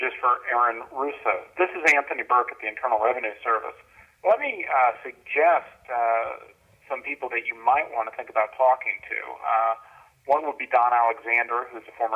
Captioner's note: on message phone machine